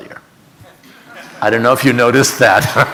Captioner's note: audience laughing; laughing